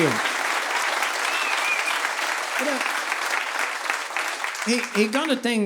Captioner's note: audience applauding